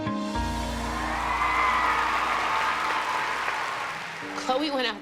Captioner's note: music fades; cheers and applause